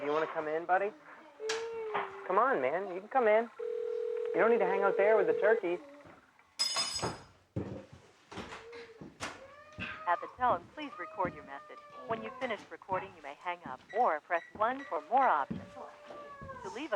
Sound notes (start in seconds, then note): 6.6 utensils clanging